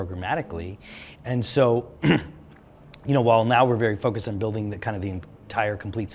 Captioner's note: cough